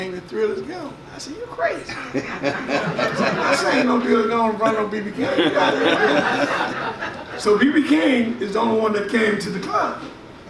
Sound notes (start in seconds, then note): 1.9 audience laughs